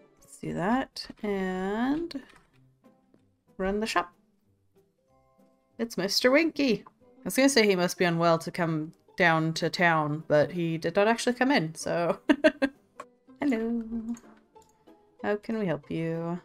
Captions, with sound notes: Let's do that and run the shop. It's Mr Winky! I was gonna say he must be on well to come down to town but he did don't actually come in so *laughs* Hello how can we help you?